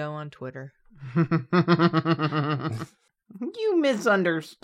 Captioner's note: chuckles